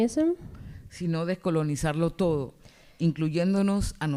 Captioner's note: speaking spanish